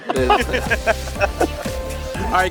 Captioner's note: laughter